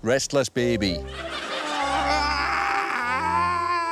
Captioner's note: whimpers and babbles